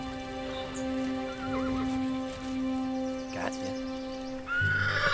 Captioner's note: whinny; whinnies